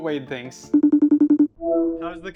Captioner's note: phone ringing